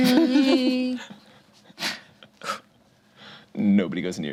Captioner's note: group chuckles